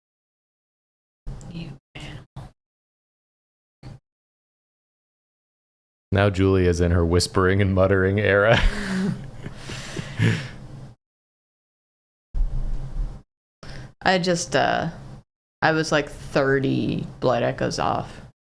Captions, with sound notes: (quietly) You asshole. Now Julia's in her whispering and muttering era. I just… I was like 30 blood echoes off.